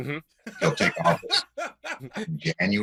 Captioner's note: laughter